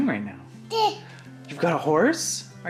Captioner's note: babbles